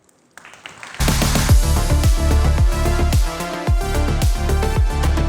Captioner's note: applause